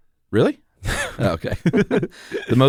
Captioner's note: laughter